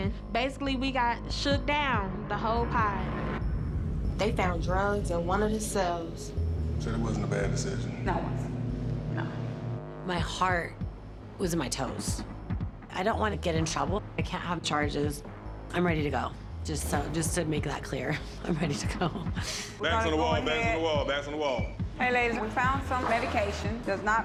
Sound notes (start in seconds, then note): 18.5 chuckles